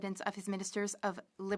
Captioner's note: speaking French